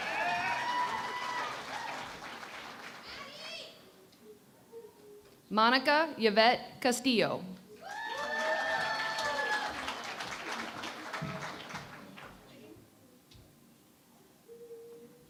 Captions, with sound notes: [ Cheering and Applause ] Monica Yvette Castillo. [ Cheering and Applause ]